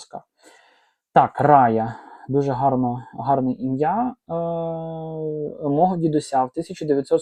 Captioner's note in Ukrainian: сопіння